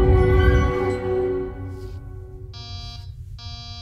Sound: door chimes

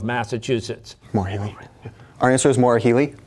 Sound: whispering

